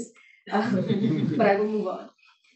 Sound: laughing

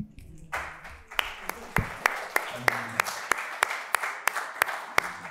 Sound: audience applauds

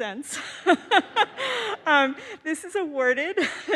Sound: laughs

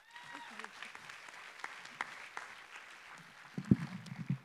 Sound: applause

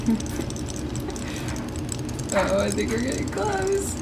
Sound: laughing

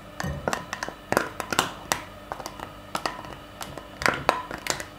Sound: crackling

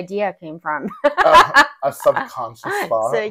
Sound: laughing

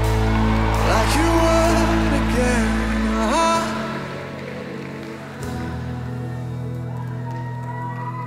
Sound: crowd

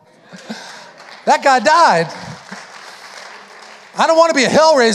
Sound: audience applauding

